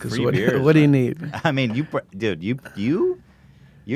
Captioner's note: laughs